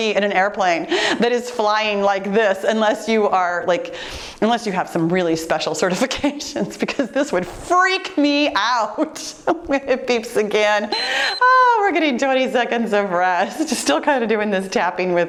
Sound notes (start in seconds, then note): 10.9 laughs; 10.9 timer beeps